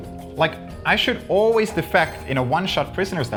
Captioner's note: audio chimes